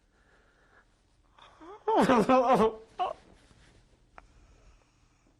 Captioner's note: crying